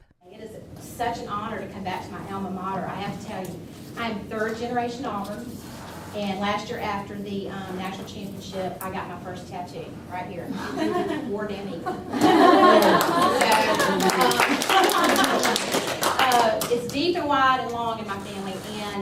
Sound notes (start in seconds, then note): 11.8 audience laughing; 12.6 audience cheering